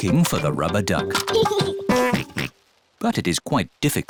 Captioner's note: giggles and oinks